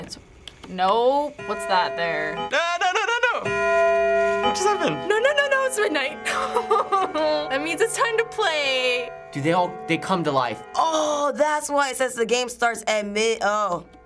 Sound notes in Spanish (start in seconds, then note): 1.6 repique del reloj; 7.0 gemidos